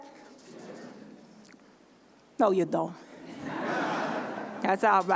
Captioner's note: laughter